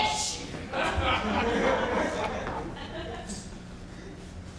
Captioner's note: audience laughs